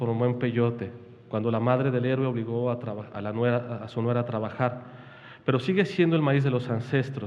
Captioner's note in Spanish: habla en wixárika